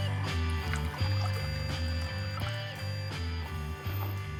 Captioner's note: milk pours